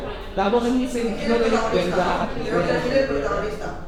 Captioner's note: indistinct chatter